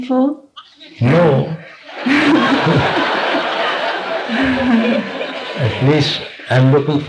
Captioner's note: laughter